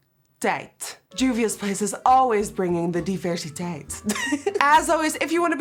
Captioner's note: chuckles